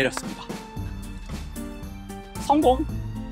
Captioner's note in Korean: 짝짝짝